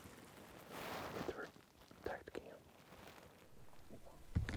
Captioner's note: hunters whisper